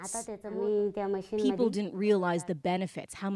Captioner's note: speaking alternate language